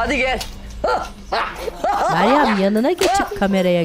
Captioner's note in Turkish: Gülme sesi